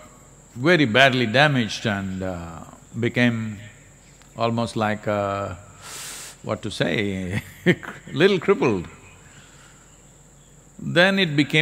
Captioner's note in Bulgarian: Смее се